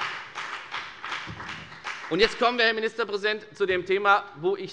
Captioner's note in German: Beifall bei der FDP